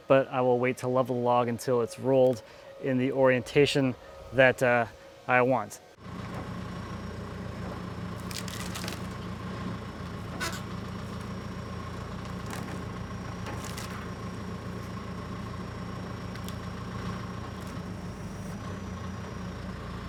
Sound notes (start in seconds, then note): 6.7 engine running calmly; 8.2 log bark cracking; 11.3 engine running calmly